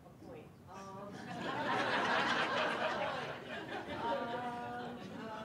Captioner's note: attendees laughing